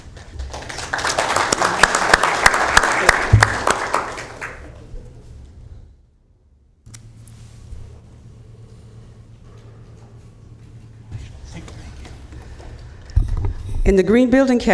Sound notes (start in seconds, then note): 3.2 applauding